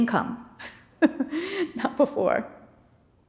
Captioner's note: laughs